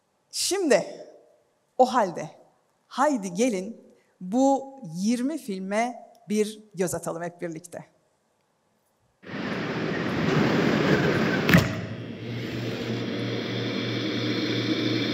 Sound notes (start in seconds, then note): 9.2 sound of wind